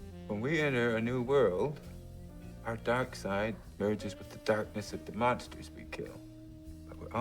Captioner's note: none